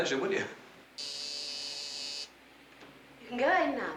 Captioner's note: phone buzzes